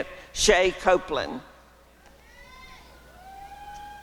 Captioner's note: applause and cheering